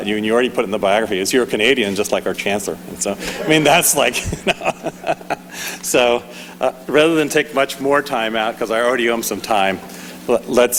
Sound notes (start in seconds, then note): 3.2 laughing